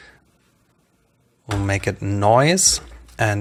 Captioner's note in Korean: 노이즈